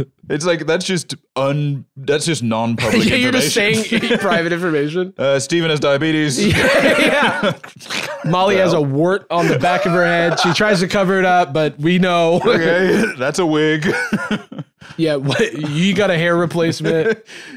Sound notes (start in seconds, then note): 6.4 laughs